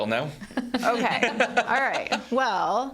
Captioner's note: laughing